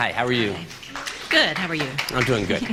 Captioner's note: applause